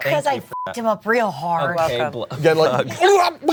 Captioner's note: beep; gurgles and coughs; all laugh